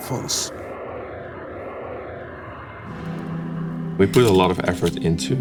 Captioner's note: airplane engine roars